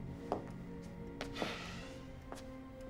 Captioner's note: exhales